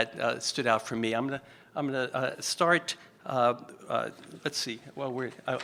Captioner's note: stutters